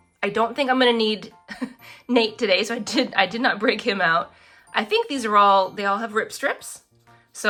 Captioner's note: laughs